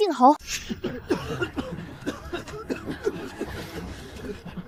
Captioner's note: cough, cough, cough